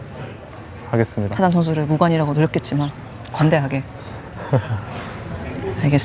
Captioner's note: laughs